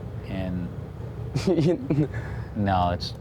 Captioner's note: chuckles